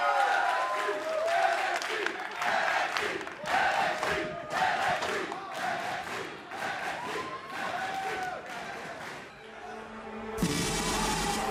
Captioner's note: crowd cheering